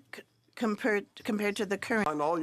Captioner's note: speaking French